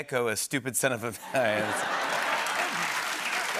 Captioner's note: laughter